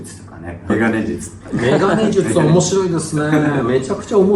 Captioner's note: laughs